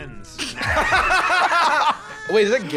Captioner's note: both laughing